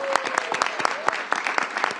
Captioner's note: applause